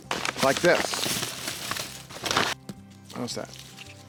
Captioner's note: paper bag rustling